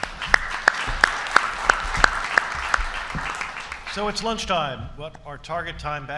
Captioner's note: applause